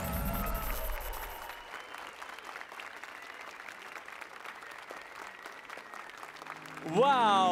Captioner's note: applause and cheers